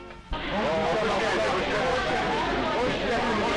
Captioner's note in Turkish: Tren garında karşılama ortam gürültüsü